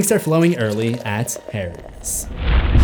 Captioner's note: impact